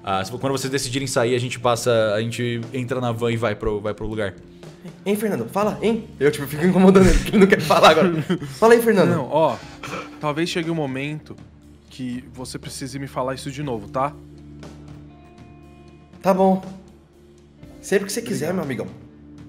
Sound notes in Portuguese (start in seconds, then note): 7.0 risadas